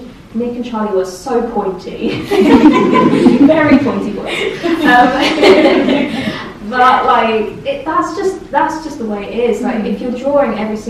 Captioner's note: all laugh